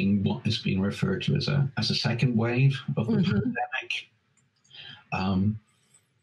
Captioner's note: audio skips